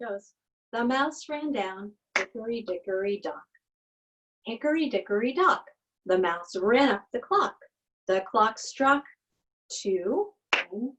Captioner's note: clap, clap